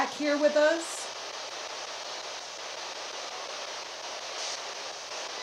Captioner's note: device hissing